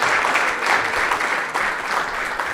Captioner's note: applause